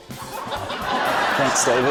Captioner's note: laughter